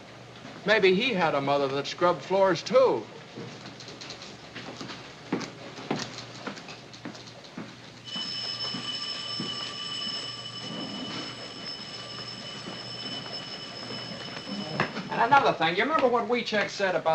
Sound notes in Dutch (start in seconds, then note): 8.0 rinkelen; 10.3 rinkelen gaat door